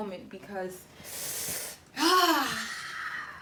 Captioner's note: exhales